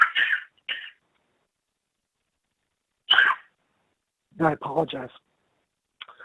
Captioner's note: coughs